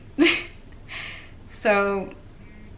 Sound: chuckles

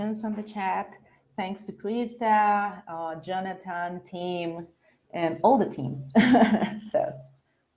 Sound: chuckles

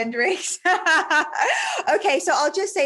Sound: giggling

